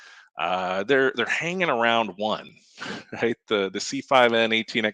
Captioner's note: laughs